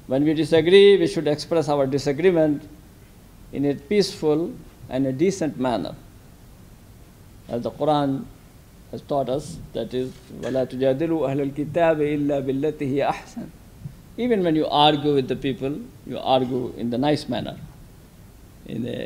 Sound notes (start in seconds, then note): 10.8 speaks in a foreign language